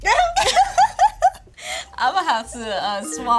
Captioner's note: laughs